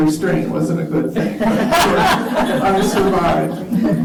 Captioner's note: laughter